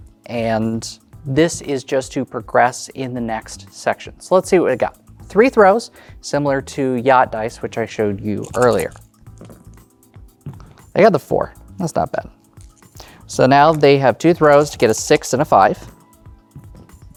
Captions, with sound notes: And, this is just to progress in the next section. So, let's see what we've got. Three throws, similar to yacht dice, which I showed you earlier. (dice rattling) (dice rolling) I got the 4. That's not bad. So, now, they have two throws to get a 6 and a 5. (dice rattling) (dice rolling)